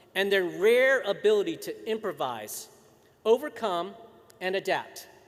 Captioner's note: none